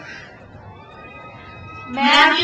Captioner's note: crowd cheers